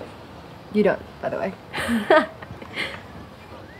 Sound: laughs

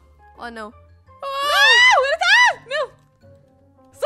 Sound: screams

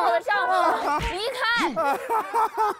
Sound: Bachelorette's roar

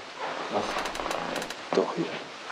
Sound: creaking

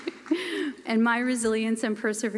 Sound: applause

